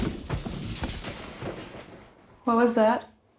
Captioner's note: thumping; rustling